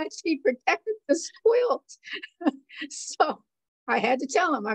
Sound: laughter

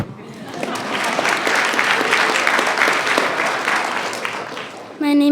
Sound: attendees clapping

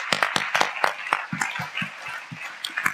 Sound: applause

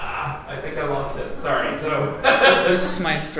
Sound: laughs

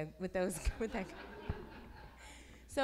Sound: laughs

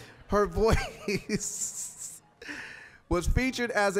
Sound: laughing

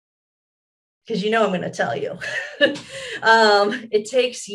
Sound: laughs

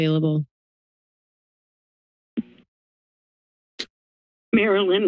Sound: silence

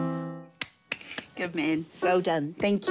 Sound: claps

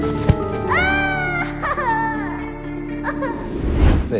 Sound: sobbing

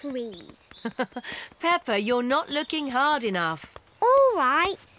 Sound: laughs

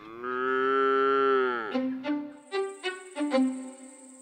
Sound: cow lowing; bouncy string music

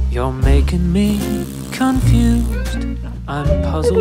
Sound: blowing raspberries

